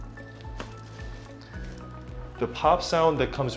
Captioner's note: neck pops